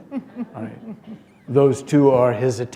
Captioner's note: laughter